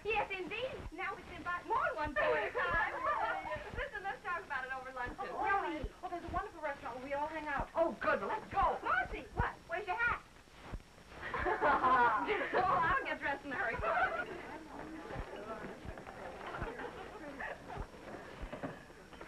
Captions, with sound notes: Yes, indeed. Now we can invite more than one boy at a time. Listen, let's talk about it over lunches. Oh, there's a wonderful restaurant we all hang out - Oh, good, then let's go. - Marcy. - What? - Where's you hat? [laughs] Oh! I'll get dresses in a hurry. [indistinct chattering]